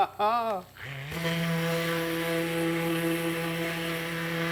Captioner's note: laughs; sander hums